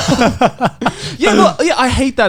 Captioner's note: laughing